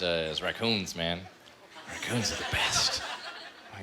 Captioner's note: whispering